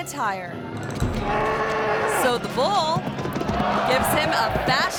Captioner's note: bull bellowing